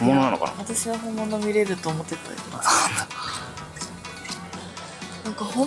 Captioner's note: laughs